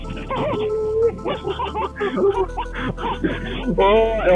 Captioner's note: laughter